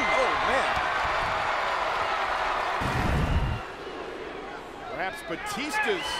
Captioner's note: applause